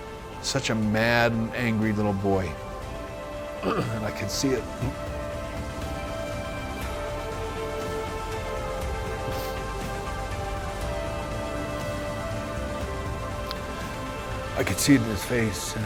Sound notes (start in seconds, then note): 6.6 sniffling